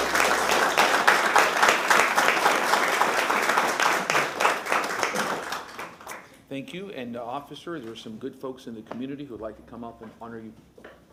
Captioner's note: applause